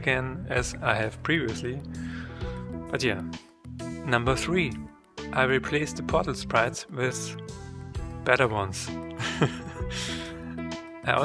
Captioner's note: laughs